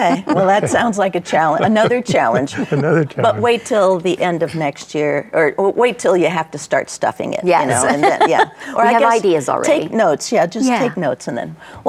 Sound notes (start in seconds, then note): 7.6 laughs